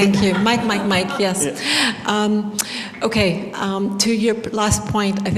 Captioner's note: laughter